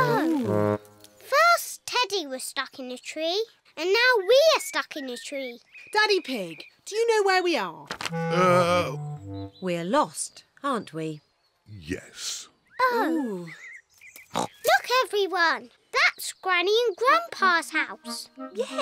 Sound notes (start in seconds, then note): 14.3 oinks